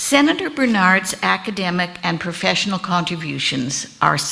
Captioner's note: none